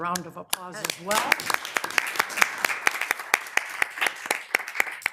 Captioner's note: members applauding